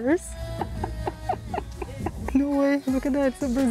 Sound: laughs

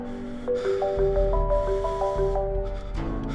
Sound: heavy breathing

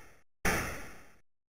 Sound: gun shot

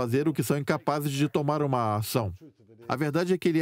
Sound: voiceover

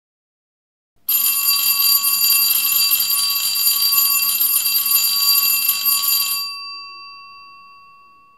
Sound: school bell rings

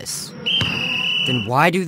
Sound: whistle blowing

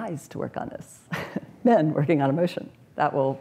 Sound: chuckles

